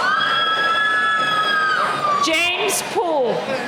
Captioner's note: cheering